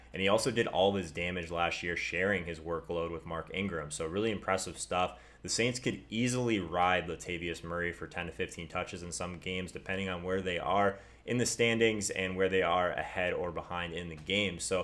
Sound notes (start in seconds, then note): none